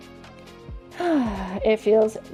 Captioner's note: exhales